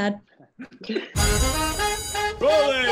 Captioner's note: Darren laughs; upbeat jazzy music